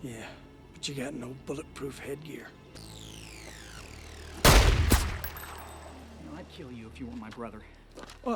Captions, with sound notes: - Yeah, but you got no bulletproof headgear. (gunshot fires) - You know, I'd kill you if you weren't my brother.